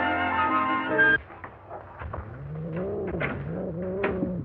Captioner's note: growling